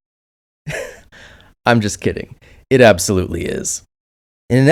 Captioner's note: chuckle